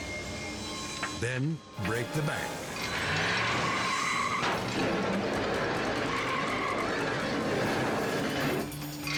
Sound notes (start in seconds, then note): 2.6 engine revs; 2.7 tires screech; 4.5 machine clatters; 5.8 tires screech